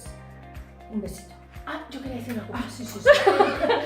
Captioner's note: laughs